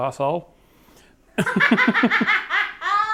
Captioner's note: laughing